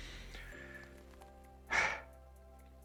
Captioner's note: that old guy sighs